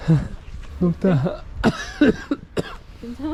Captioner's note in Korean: 쿨럭 쿨럭